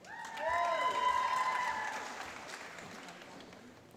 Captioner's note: applause